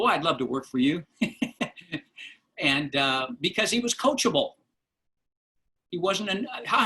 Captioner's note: laughter